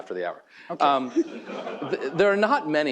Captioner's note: chuckles